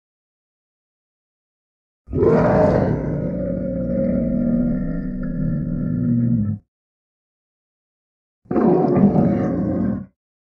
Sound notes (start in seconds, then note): 0.0 sound of tiger